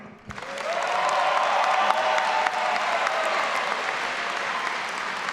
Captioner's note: all applauding and cheering